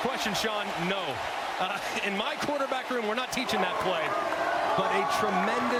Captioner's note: cheering